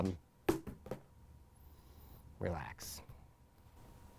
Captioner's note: light thudding